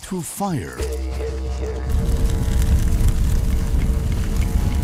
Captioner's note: flames crackling